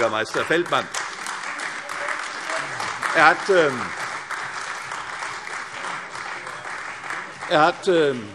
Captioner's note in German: Beifall CDU, AfD und vereinzelt Freie Demokraten